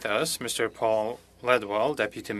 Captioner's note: speaking French